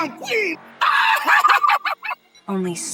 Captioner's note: laughing